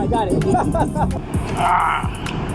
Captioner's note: laughing